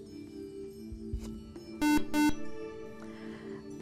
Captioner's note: buzzer